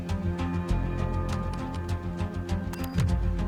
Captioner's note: keyboard typing; suspenseful music